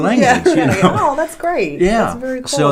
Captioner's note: laughing